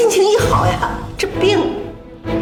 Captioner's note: poof